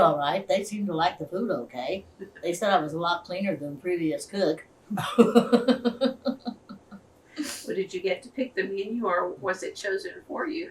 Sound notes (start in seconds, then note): 2.4 laughter; 4.9 laughs